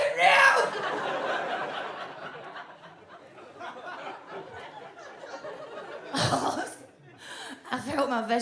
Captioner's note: audience laughs